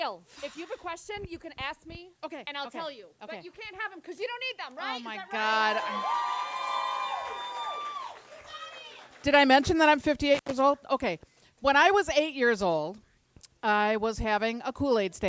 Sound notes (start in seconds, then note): 5.3 audience cheers